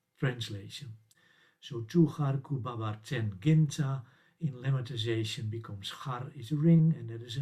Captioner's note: sumerian